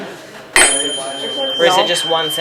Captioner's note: tuning fork hits